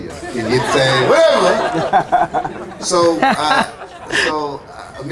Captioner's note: laughs